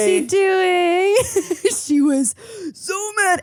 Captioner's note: laughs